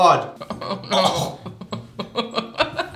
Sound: chokes

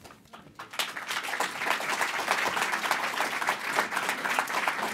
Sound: applause

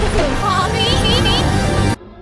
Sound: glitching sounds

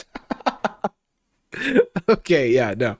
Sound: laughs

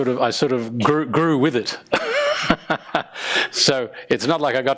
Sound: laughing

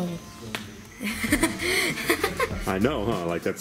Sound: laughs

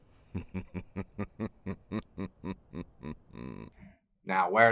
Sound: evil laugh

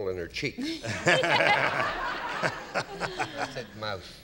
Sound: laughter

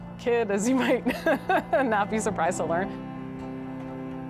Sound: laughs; soft music

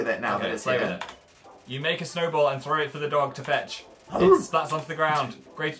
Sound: barks

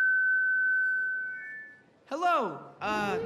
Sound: microphone feedback

